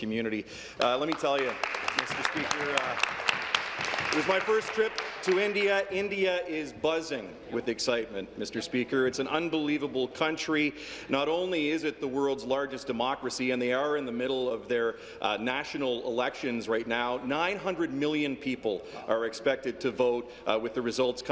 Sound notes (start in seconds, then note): 6.4 applause